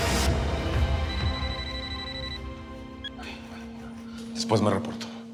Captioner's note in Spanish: suena el celular